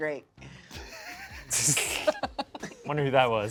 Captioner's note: laughs